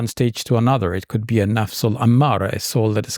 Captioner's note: speaks in Arabic